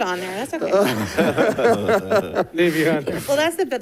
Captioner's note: board members laughing